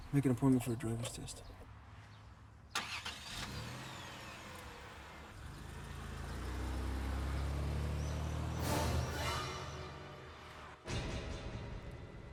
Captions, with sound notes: Make an appointment for a driver's test. (car starts) (sharp climactic music)